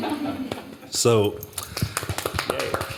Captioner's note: applause